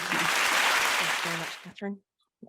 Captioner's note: audience clapping